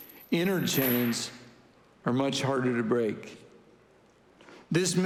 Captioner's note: chains thudding